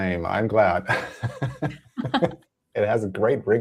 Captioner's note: laughter